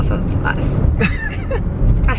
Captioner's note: chuckles